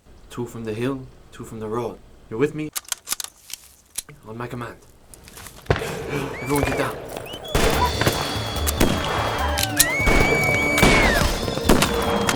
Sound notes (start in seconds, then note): 5.2 guns firing; 7.4 whistling; 9.1 suspenseful music